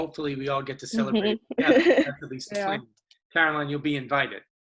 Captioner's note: laughs